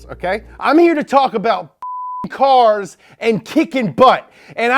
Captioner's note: beep